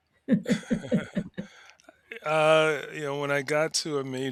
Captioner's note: both laughing